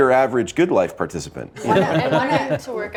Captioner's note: everyone laughing